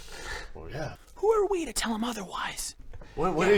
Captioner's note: whispering